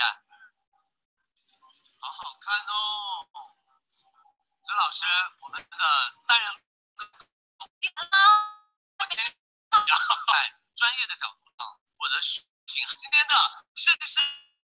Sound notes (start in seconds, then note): 2.9 Mandarin; 6.3 glitching; 9.5 Mandarin